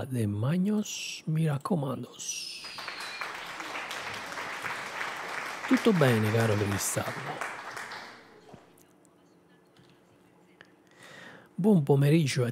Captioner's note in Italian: Applauso